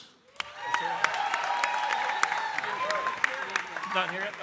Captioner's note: audience cheering and applauding